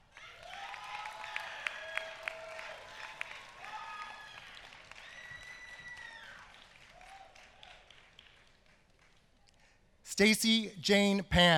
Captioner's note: applause